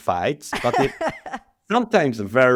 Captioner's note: laughs